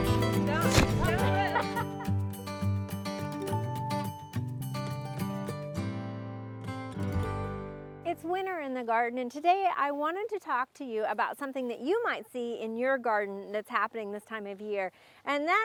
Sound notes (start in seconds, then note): 0.2 laughing; 3.0 soft guitar music